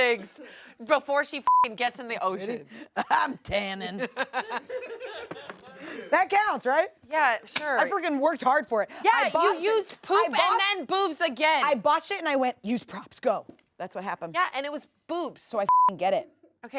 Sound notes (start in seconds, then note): 1.4 beep; 4.0 everyone laughs; 15.6 beep